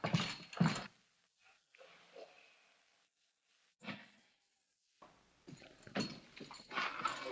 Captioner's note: shouting for the sheriff